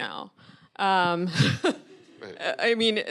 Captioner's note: audience laughing